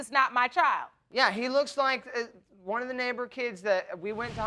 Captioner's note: stammering